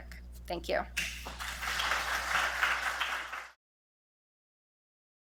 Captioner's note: audience clapping